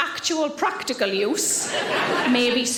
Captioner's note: audience laughing